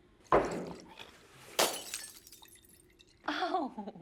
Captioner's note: glass shatters; chuckles